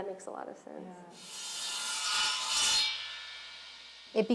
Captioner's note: buzzing